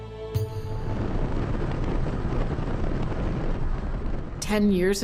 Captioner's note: fire roaring